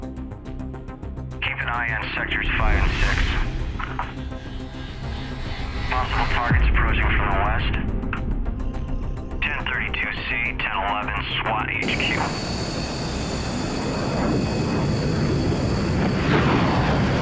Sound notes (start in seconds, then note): 11.8 space ship revving